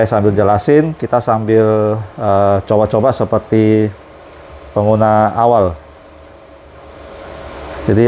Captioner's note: printer machine noise